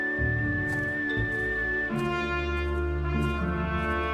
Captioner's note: footsteps